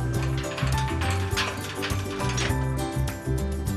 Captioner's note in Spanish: Sonido al cerrar el portón